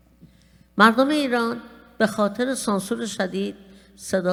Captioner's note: speaking persian